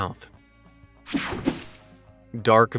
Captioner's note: whooshing sound